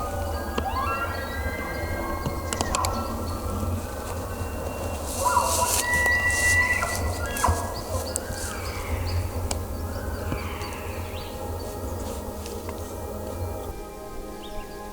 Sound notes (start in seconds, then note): 0.4 multiple elk bugling; 8.1 caller cow calling